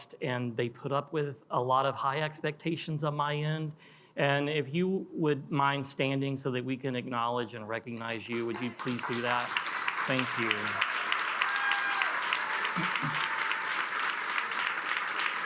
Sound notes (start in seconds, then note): 9.1 attendees applauding; 10.9 attendees cheering and applauding